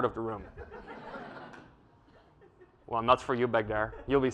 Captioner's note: laugh